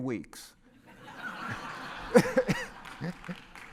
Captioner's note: laugh